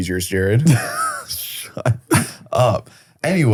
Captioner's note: laughs